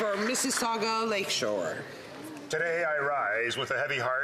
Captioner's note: applause